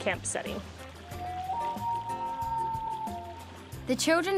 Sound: loon crying

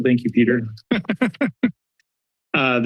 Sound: laughs

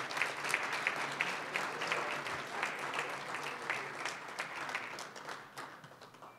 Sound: applause

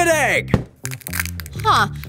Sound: egg cracking

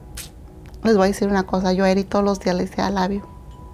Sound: speaking in Spanish

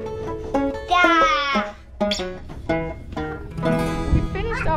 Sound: shouts

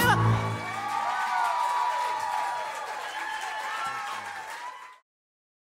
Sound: crowd cheers; applause

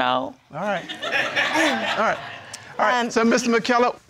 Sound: crowd laughing

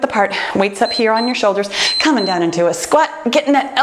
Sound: timer beeps

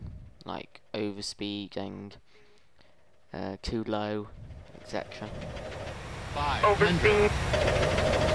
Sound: warning Sounds

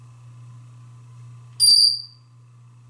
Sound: tweet

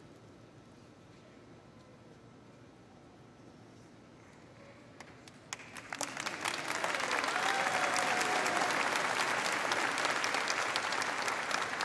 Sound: applause

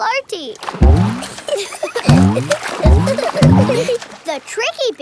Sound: giggling

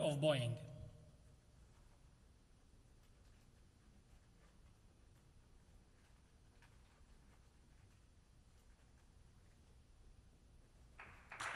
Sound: applause

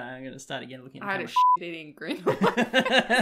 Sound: laughs

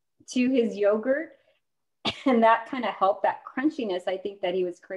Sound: laughter

